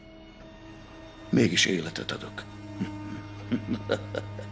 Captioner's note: laughing